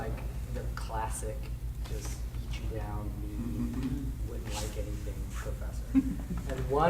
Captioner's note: speaking softly